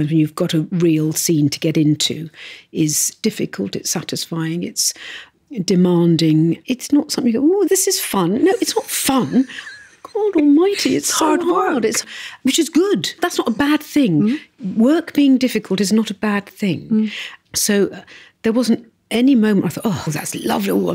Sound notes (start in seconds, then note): 8.4 laughs